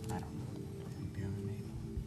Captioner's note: beeping